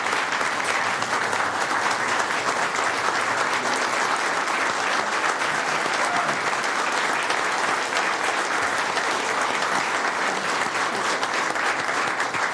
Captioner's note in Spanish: Aplausos y aplausos